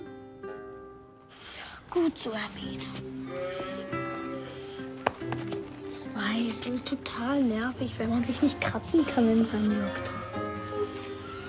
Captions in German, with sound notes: Ja, gut so, Hermine. (Schafe blöken.) Ich weiß, das ist total nervig, wenn man sich nicht kratzen kann, wenn es einen juckt.